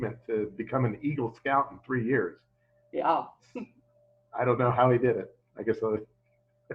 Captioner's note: chuckles